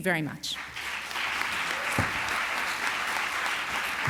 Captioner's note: applause